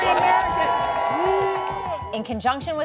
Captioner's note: cheers and applause